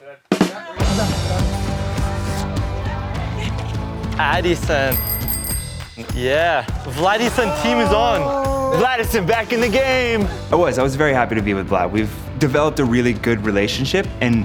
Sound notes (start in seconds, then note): 0.3 upbeat music; 4.8 bell ringing